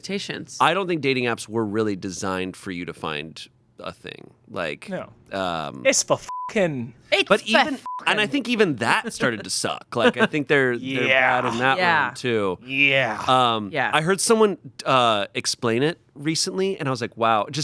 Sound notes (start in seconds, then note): 7.8 beep